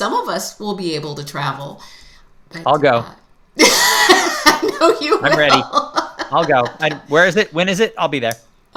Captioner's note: laughter